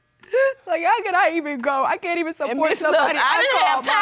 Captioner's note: crying